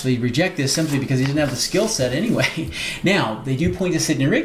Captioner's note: chuckles